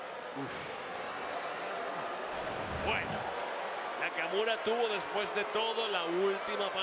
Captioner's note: applause